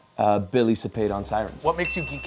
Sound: bell chimes

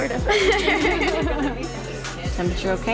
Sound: laughter

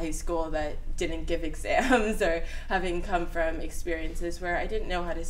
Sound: laughs

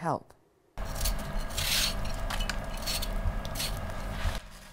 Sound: peeling vegetables

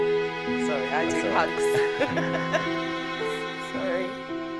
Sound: laughing

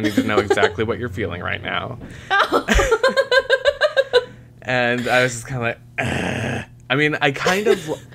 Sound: laughter

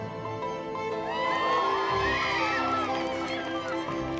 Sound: crowd cheering

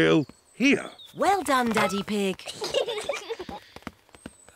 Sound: peppa and george giggle

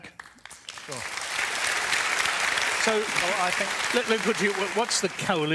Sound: applause

